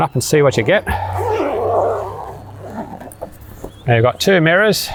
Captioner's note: zipper buzzes